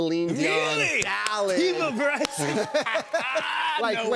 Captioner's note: both laugh